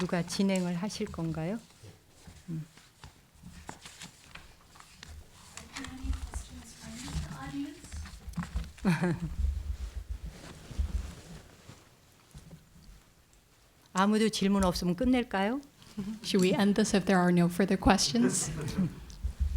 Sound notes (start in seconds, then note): 0.6 speaking in Korean; 8.8 laughs; 14.6 speaking in Korean; 18.1 audience laughs